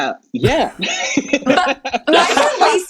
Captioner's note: laughing